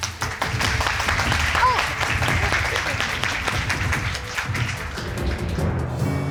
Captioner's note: crowd clapping